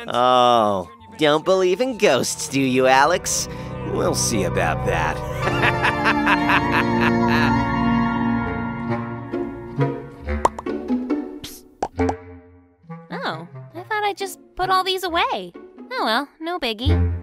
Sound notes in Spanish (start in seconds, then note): 4.9 se ríe malvadamente; 10.4 pop